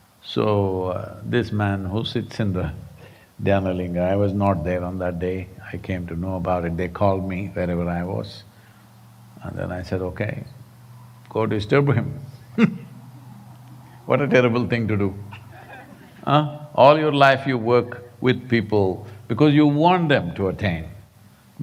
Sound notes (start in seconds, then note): 11.8 laughs